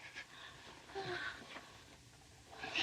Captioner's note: sighs